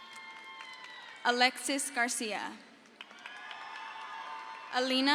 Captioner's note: crowd cheers